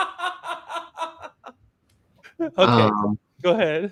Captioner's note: laughter